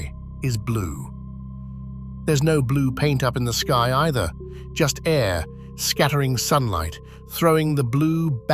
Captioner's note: breath